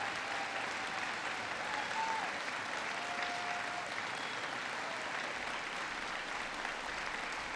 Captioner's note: applause